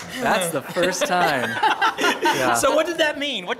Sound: laugh

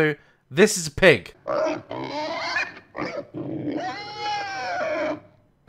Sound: genuine pig snorting

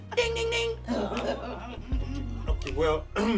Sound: everyone laughs

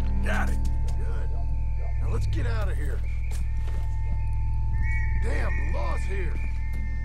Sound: police's whistle is heard

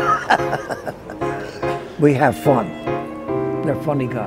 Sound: laughing

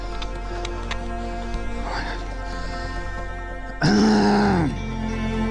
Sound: breathing heavily

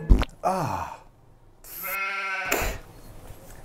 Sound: fart noise; sheep noise

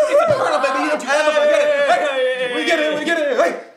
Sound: cheering

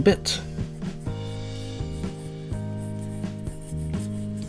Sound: pencil scratching sounds

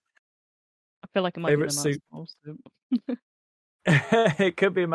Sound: laughs

